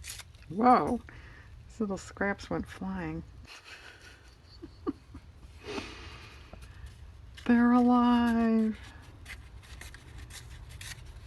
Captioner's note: laughs